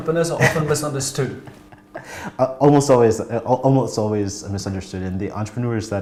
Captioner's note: laughs